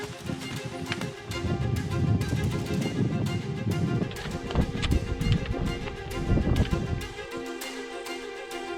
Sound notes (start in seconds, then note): 1.7 wind howling; 5.2 footsteps crunching